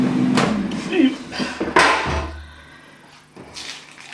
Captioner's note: clunk